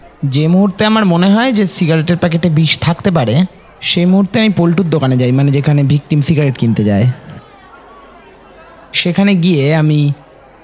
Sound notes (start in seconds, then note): none